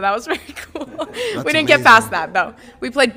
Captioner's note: laughs